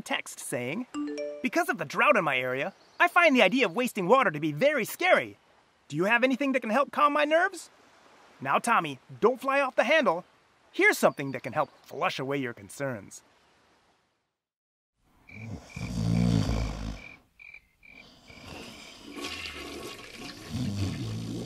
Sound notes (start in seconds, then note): 15.4 snoring; 18.9 flushing sound